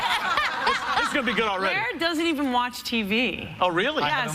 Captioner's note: laughter